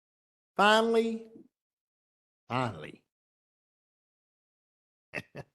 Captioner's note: laugh